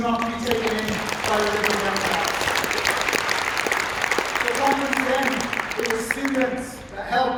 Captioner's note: applause